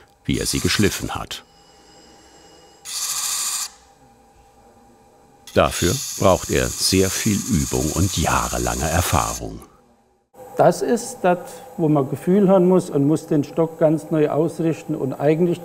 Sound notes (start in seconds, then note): 1.3 loud machine whirring